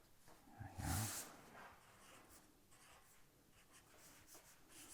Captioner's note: marker gliding